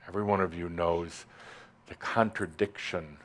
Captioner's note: none